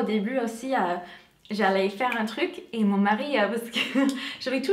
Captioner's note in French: rigole